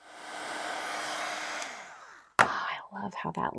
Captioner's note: dryer whooshing